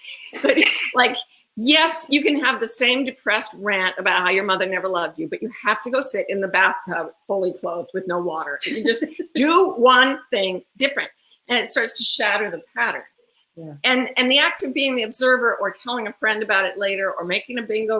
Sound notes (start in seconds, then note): 8.6 laughs